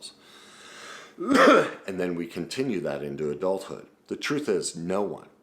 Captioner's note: coughs